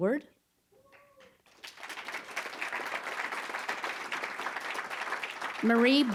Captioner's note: applause